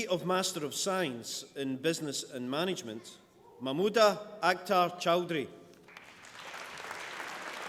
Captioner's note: applause